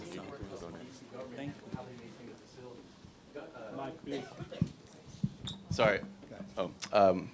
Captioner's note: speaking off microphone